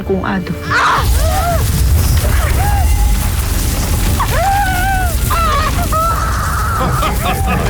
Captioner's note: guttural cry of pain; powerful whoosh-crackle; cackles